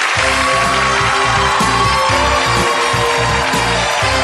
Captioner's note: audience applauds